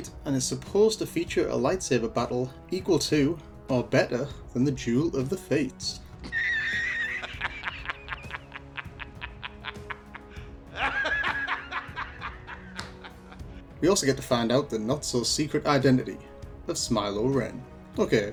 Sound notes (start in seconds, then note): 6.2 laughing Clip